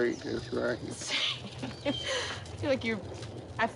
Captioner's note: chuckles